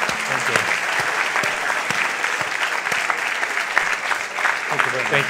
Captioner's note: applause